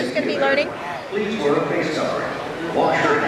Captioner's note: automated voice